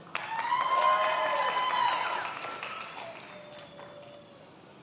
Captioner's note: many applauding